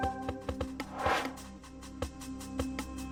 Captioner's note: air swooshes; intriguing music continues